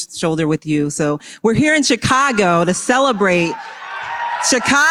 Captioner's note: applause